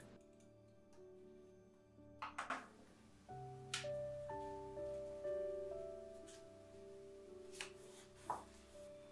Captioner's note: soft crafty noises